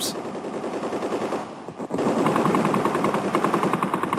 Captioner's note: guns firing